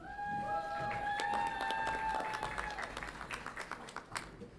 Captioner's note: audience applauds and cheers